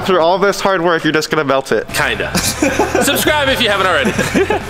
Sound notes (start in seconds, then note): 3.7 laughing